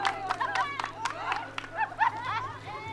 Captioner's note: joyful shouting